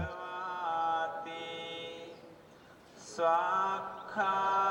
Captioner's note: man chanting over loudspeaker